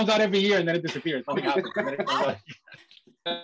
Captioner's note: laughter